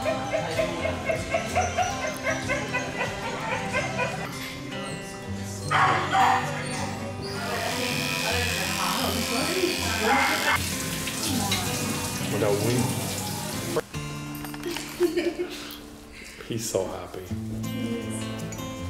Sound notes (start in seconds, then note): 5.7 barking dog; 7.3 buzzing; 10.5 running water; 14.6 laughter